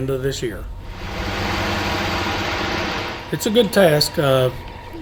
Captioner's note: engine Noise